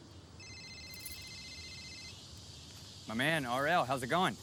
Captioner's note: phone ringing